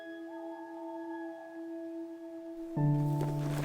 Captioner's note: gentle orchestral music continues; owl hooting